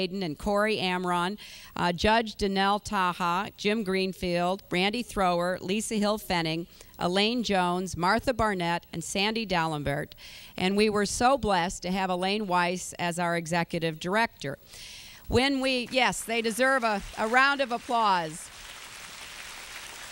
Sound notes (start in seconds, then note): 16.2 applause; 18.4 continued applause